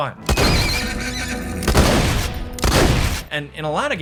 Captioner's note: gun firing